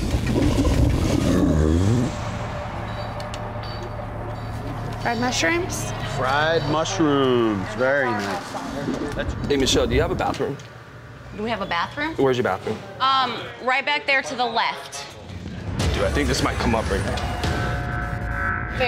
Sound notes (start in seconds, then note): 1.2 belches